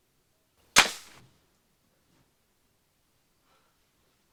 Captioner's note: gun fires